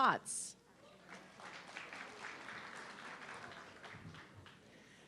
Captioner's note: audience clapping